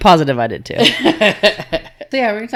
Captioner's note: laughing